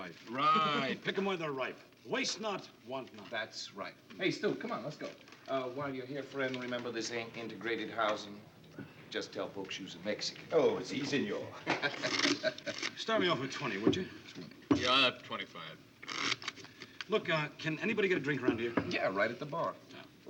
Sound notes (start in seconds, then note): 11.7 Kelly laughs; 16.0 card shuffle